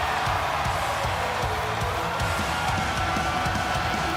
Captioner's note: audience cheering